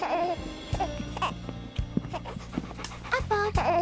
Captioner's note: baby cooing